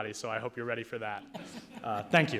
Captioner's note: people laughing